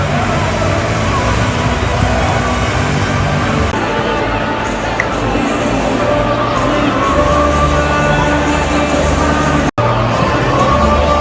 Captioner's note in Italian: Applauso